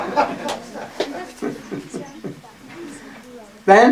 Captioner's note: смех